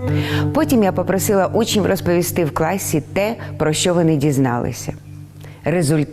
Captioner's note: speaking in foreign language